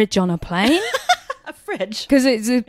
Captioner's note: laughs